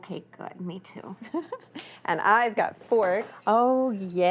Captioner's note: laughs